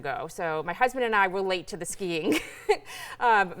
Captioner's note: chuckles